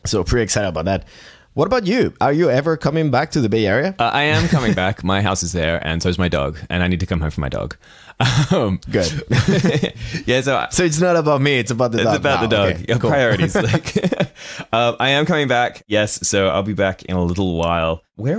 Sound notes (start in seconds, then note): 8.8 chuckling; 8.8 laughs; 14.3 chuckling